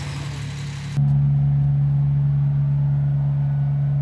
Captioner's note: engine humming